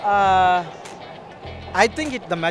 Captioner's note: none